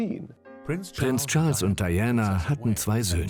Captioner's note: voiceover